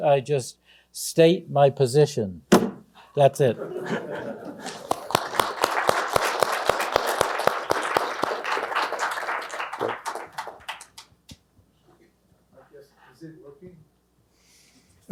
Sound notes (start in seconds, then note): 3.5 laughter; 4.4 applause